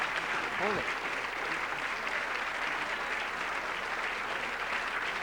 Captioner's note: applause